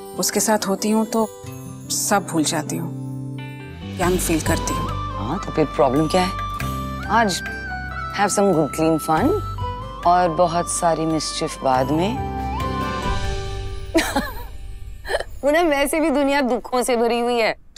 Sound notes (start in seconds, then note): 13.9 giggling